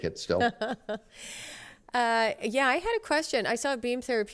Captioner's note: laughter